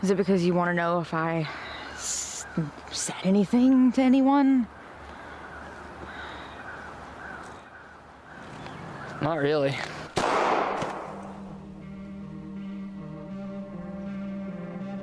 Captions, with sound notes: - Is it because you want to know if I said anything to anyone? - Not really. (gun firing) (somber music)